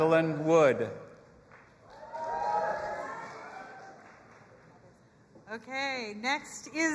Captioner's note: audience applauding and cheering